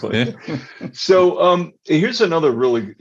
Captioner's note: all laughing